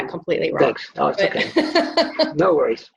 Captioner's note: laughs